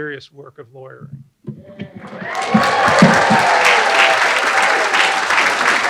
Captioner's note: applause